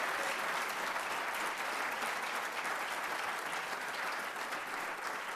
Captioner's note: cheers and applause